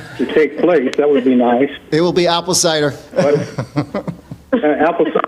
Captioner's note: laughing